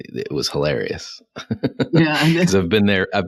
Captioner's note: laughs